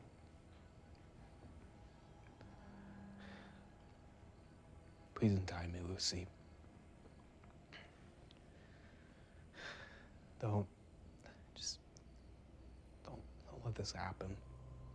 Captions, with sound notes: (crickets chirping) - Please untie me Lucy. (crickets chirping) (Ben sighs) Don't, just, don't let this happen.